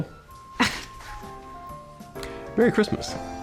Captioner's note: scoffs